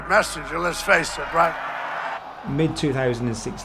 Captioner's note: crowd cheering